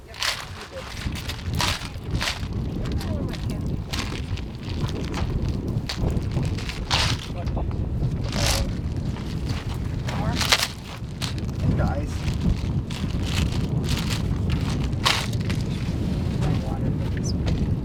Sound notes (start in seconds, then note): 1.7 loud clatters; 11.2 loud clatters; 16.2 wind whooshing